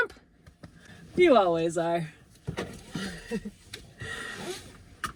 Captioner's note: chuckles